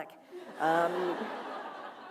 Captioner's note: laughter